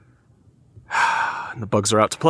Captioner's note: sighing